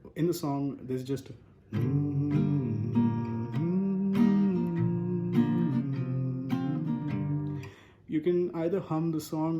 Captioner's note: humming